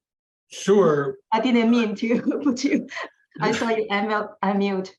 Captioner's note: laughs